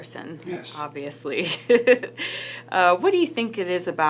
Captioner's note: laughs